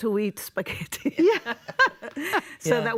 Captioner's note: laughter